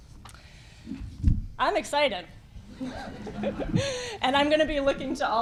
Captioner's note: giggle